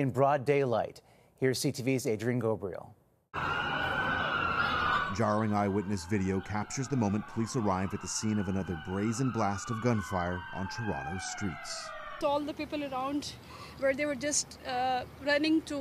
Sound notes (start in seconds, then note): 8.1 sirens